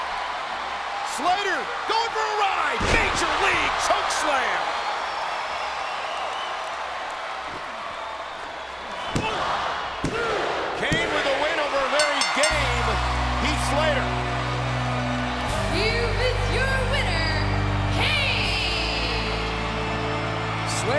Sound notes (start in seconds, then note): 6.0 crowd cheering; 11.9 bell ringing